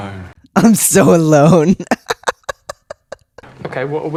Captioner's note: laughter